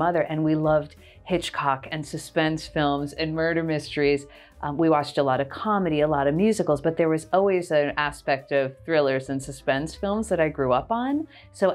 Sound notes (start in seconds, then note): none